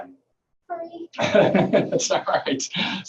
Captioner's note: laughing